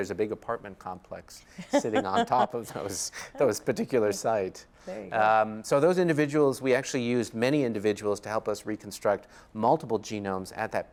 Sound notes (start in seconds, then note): 3.4 laughs